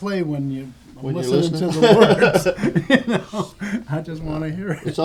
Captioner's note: laughter